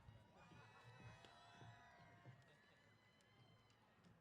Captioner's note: cheers